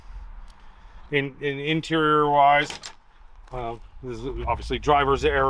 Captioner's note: truck door clicking